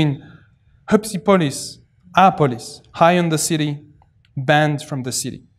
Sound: non-english

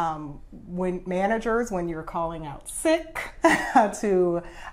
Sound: laughs

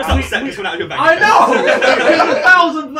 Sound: all chattering; all laughing

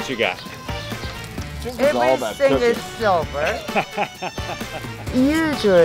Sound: laughter

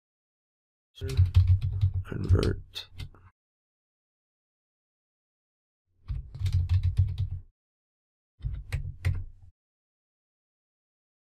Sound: typing

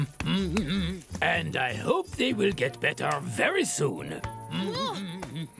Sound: continues humming

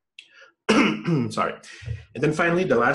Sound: coughs

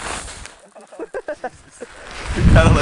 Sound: laughter

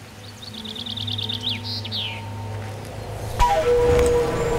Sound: birds chirping; flute music

